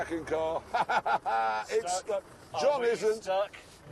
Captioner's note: laughs